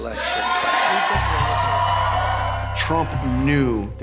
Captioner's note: cheers and applause